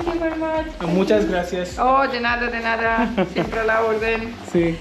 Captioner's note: speaking in Spanish